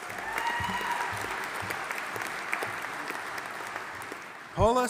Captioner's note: audience applauding